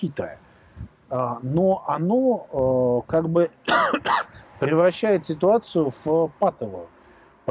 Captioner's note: coughs